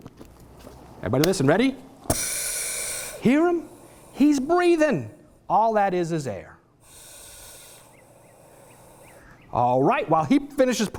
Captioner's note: air sound; sounds of air moving in and out